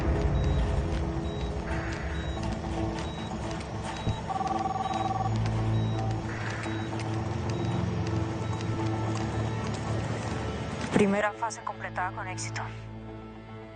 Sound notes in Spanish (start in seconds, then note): 1.2 Sonidos de telemetría; 5.8 Suena un celular